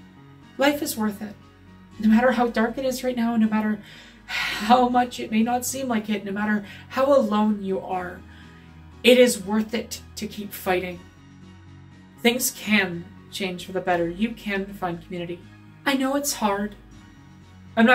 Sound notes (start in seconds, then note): none